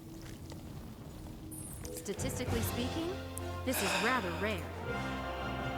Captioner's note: sighs